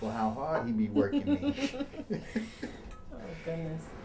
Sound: laughs; Jeanette laughs

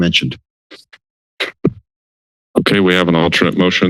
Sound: silence

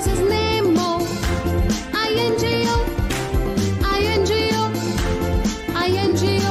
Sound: clap

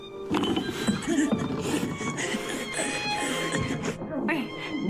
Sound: woman struggles

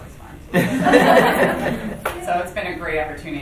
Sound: group laughing

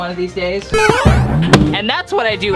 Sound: mario jumping

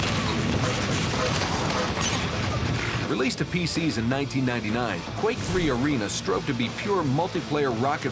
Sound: gunshots

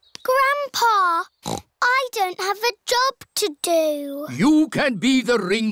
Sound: snorts

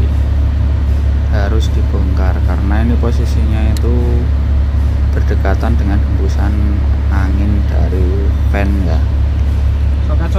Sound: engine

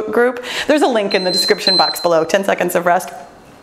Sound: timer beeps

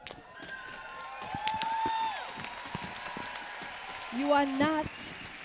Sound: applause

